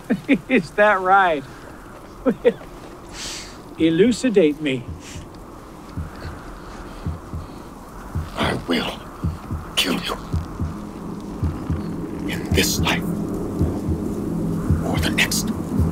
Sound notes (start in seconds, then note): 2.1 laughs; 4.9 heartbeat thudding; 15.6 dramatic music